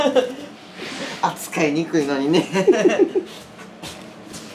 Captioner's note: laugh